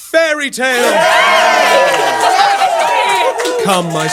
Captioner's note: cheers